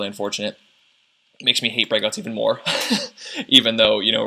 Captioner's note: laughs